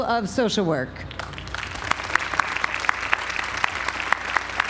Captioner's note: applause